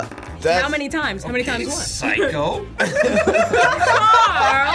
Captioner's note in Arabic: الجميع يضحكون; يضحك